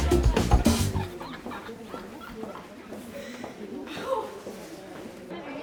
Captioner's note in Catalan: Lisa riu